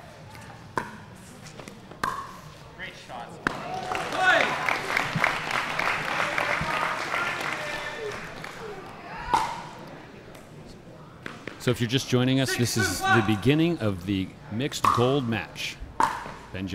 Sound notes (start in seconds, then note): 3.6 audience applauding; 9.3 ball bouncing